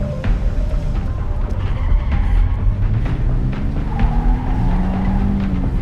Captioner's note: car tires screeching